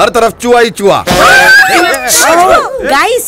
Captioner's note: Everyone squealing